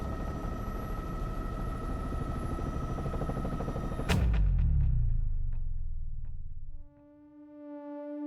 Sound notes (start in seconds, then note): 3.1 helicopter blades whirring